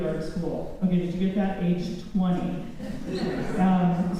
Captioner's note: laughter